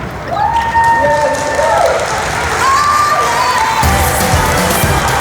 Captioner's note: applause